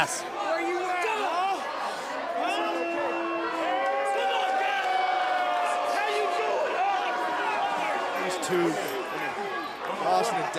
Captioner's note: crowd cheering